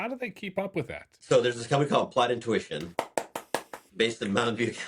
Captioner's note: clap